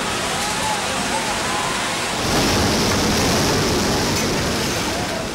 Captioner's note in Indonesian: suara gelombang tsunami